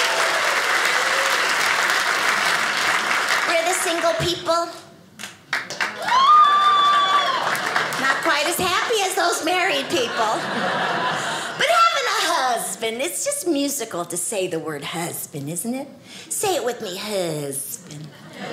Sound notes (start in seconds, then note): 0.0 audience applauding; 5.4 audience applauding; 9.2 audience laughing